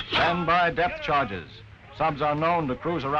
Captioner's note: voiceover